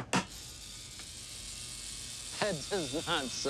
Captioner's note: tattoo gun buzzes